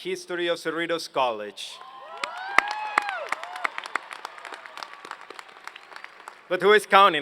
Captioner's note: applause